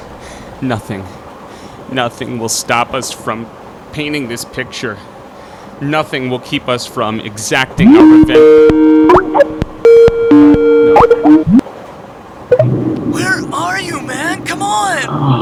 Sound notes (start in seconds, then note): 9.1 skype ring